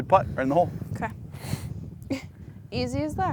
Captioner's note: laughs